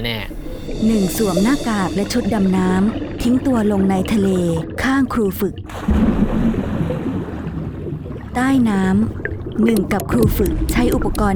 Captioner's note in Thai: เสียงน้ำ